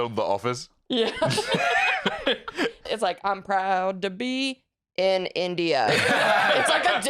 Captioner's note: laughing; flatly